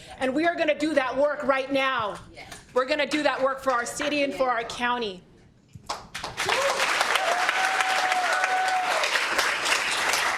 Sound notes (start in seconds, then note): 6.3 cheers and applause